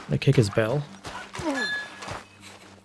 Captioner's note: bell dings